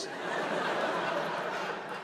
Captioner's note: laughter